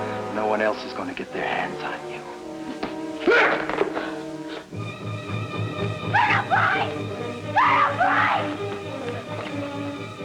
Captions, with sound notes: No one else is gonna get their hands on you. (Kurt yelps) (dramatic instrumental music) - Colonel Price! Colonel Price!